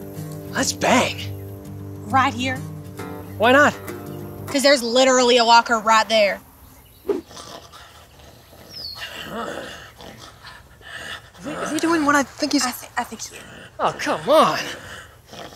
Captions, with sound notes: Let's bang! Right here? Why not? Cause there's literally a walker right there (gross gurgling) Is he doing what I think he's doing? -I think he is Oh come on...